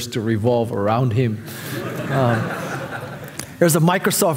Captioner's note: audience laughing